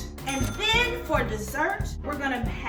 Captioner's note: ding